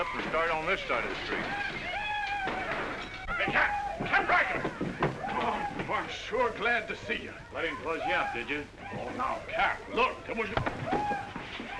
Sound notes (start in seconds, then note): 1.8 men yelling & sounds of chaos; 10.5 whack